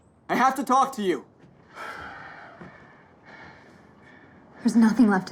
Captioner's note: sigh